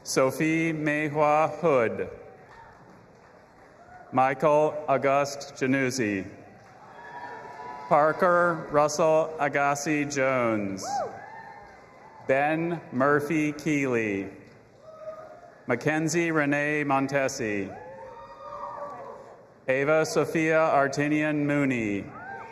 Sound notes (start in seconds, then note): 2.3 audience applauding and cheering; 6.5 audience applauding and cheering; 10.9 audience applauding and cheering; 14.5 audience applauding and cheering; 17.8 audience applauding and cheering